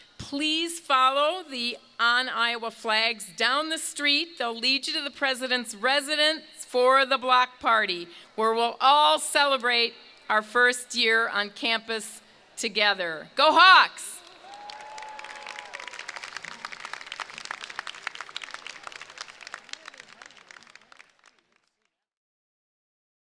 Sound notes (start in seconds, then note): 14.1 crowd cheering; 14.2 crowd applauding